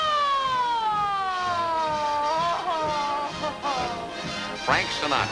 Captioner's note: swoons